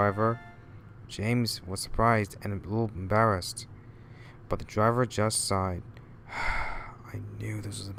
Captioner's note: sigh